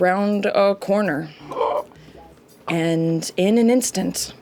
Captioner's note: gasps